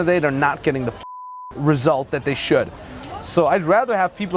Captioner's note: beep